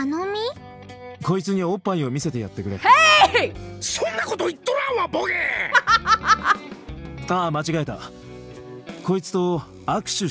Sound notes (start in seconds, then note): 5.2 laughs